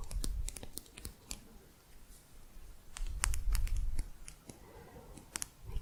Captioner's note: quick tapping